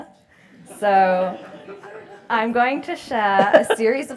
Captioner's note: laugh